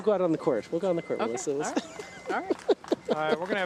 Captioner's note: laughs